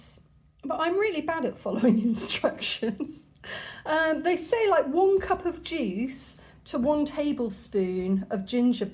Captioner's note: laughing